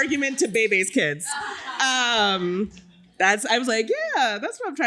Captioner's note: laughter